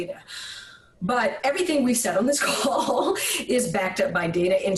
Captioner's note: laughs